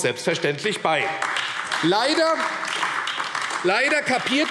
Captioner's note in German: Beifall AfD